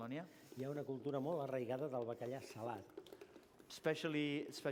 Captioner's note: non-english speech